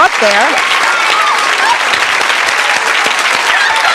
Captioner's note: audience clapping